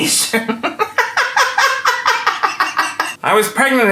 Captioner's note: laughing